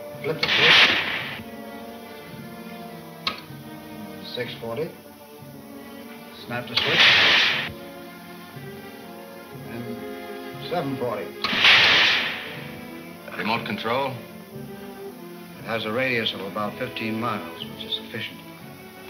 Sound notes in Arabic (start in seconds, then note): 6.8 إطلاق نار عدواني; 11.5 إطلاق نار بشكل عدواني